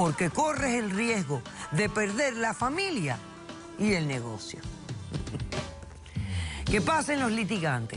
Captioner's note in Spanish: Ríe